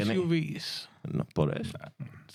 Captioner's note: speaking In Spanish